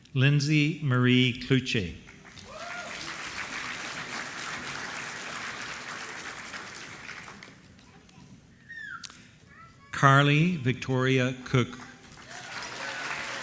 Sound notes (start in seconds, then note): 2.2 applause; 11.7 applause